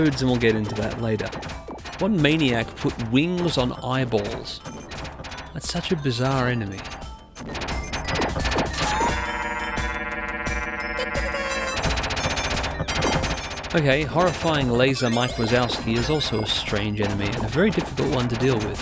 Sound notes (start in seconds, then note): 7.8 laser sounds; 10.6 cotton squeals and falls out of the sky